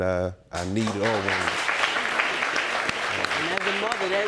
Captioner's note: audience applauding